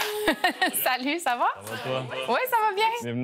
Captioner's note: laughs